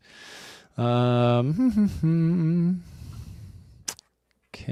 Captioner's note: humming